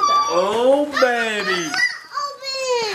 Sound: exclaiming

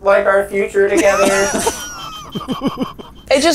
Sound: beep beep beep beep beep beep beep beep beep beep beep

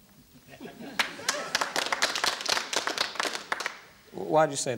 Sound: applause

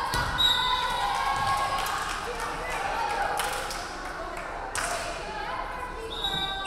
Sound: referee whistling; crowd clapping

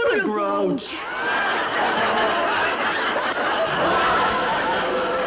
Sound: audience laughs

